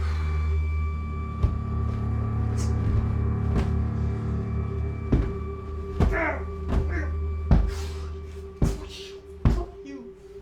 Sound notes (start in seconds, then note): 1.0 eerie music; 6.5 pillow hits